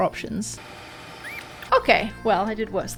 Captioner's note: tape fast-forwarding